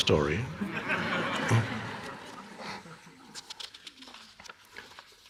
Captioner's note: audience laughing